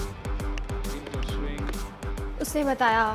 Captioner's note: TV playing